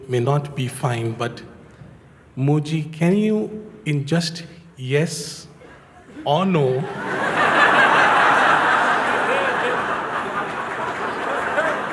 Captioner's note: Lachen